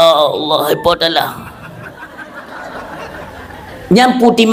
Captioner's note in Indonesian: tertawa